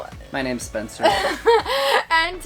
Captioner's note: laughs